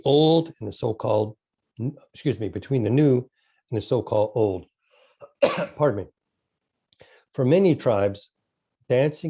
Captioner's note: coughs